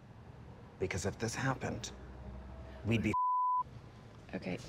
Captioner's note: beep